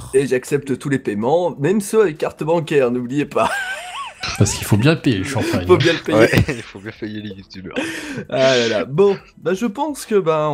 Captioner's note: laughing